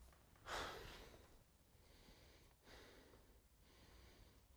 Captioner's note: Marcus sighs